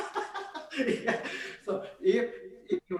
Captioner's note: laughs